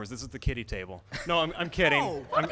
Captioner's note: laughter